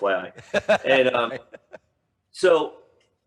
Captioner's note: laughing